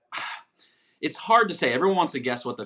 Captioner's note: sighs